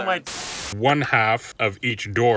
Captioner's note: TV hissing